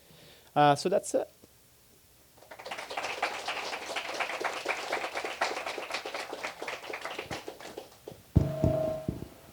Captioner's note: applause